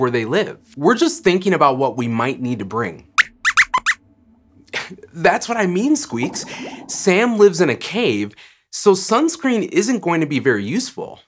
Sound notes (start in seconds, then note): 3.2 squeaks squeaks